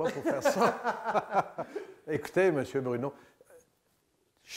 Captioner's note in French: rires